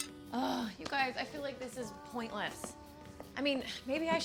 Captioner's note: groans